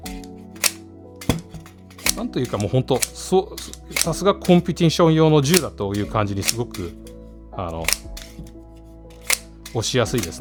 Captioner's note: click Click Click